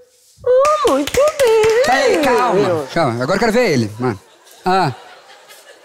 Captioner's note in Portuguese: palmas